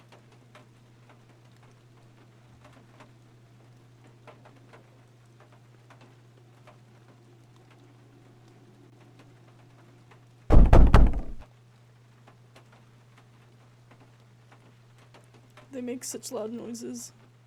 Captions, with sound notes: [Three Loud Bangs] They make such loud noises.